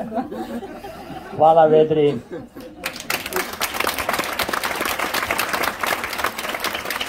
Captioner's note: applause…